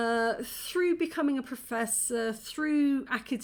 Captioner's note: none